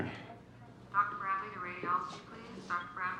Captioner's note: woman over PA